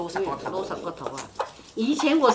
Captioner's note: Cantonese